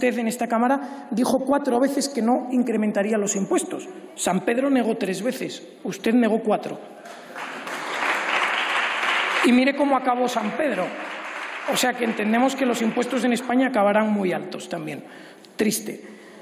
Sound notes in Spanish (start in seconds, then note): 7.0 aplausos